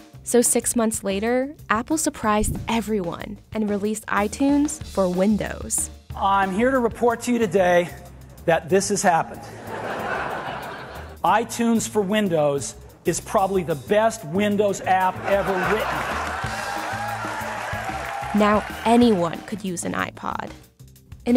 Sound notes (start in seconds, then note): 9.2 audience laughing; 15.0 audience clapping and laughing